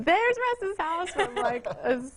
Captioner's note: murmurs